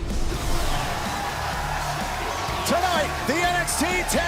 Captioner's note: cheers and applause